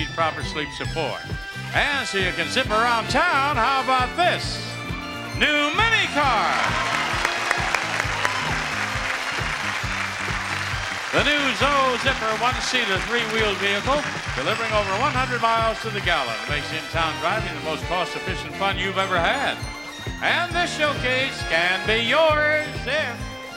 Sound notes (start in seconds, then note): 5.7 audience cheering and applauding; 5.7 upbeat music